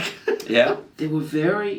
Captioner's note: laughing